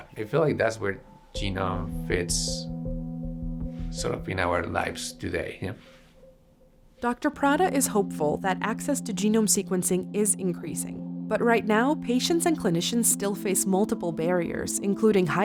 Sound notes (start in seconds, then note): 5.7 voiceover